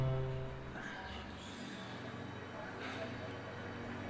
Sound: sighs

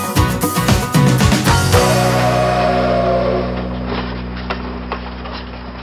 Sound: train whistle blowing

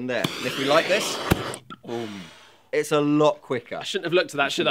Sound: poofff

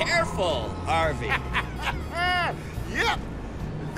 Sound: laughs

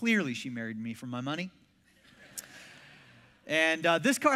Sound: congregation laughs

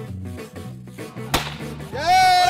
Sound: firework bang for confetti

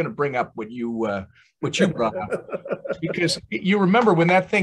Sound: laughs

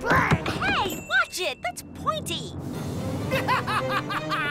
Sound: evil laughter

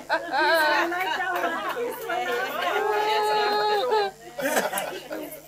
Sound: applause

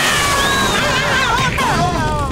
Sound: meowing

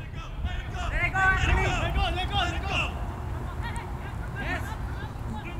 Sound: players talking and yelling

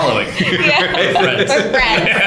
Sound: laughter

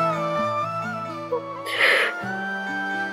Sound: sniffling

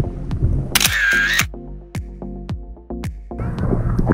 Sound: camera clicks

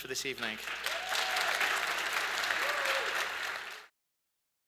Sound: audience cheers and applause

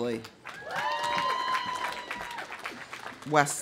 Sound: audience applauding; audience cheering

